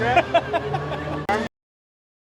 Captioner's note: laughing